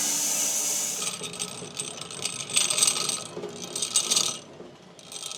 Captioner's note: machine rattling